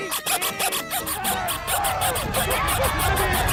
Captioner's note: screams